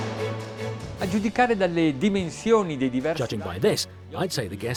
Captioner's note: dramatic orchestra music; speaking in foreign language